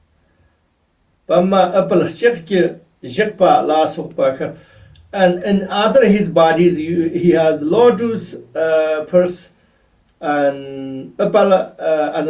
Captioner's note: tibetan